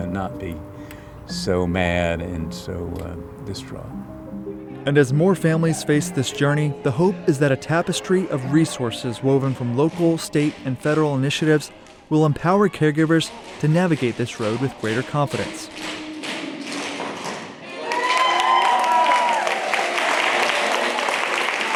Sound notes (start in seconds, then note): 16.0 crowd applauding; 16.0 shoes tapping